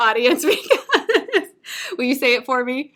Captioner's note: laughter